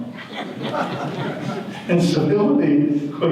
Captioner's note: audience laughter